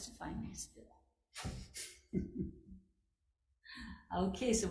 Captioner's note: person laughs